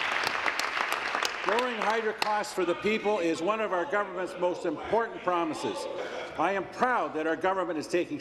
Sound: applause

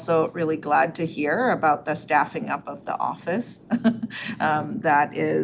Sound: laughs

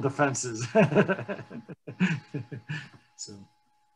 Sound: laughing

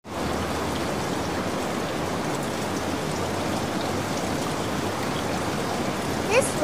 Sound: rain noises

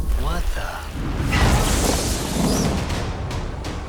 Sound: thunder crashing; zapping; dramatic music playing

